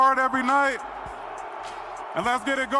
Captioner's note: crowd booing